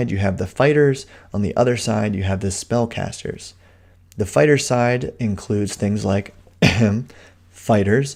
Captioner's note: ehem